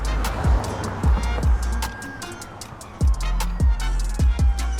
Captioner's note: sirens